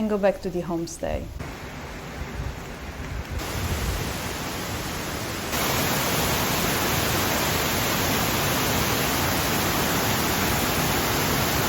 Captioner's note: roaring water